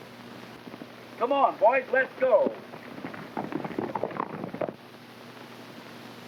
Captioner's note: hooves clopping